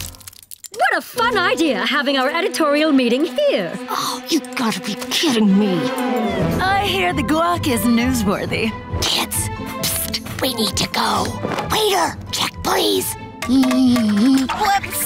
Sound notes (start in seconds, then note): 8.5 whispering; 13.2 humming